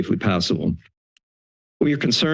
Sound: silence

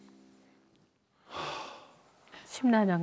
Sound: sighing

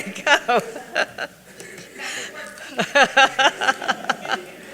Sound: laughs

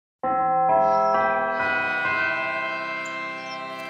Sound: bell chimes

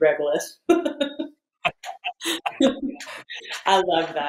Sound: both laugh

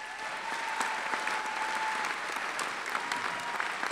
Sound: applause

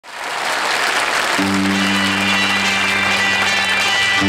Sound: audience applauds

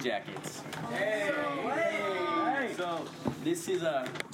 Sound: people commenting excitedly

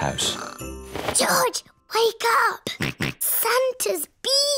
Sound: snorts

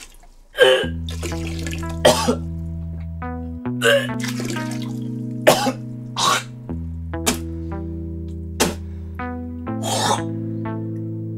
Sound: puking sounds

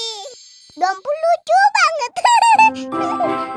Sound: laughing

